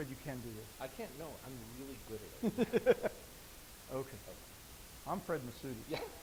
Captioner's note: laughs; laughing